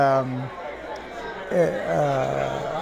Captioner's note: indistinct chatter